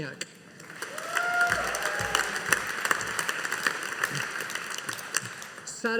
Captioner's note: audience applauding